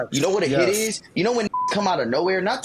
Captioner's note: beep